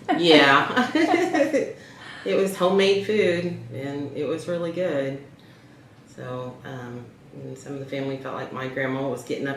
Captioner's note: laughter